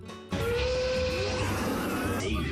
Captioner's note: horn honks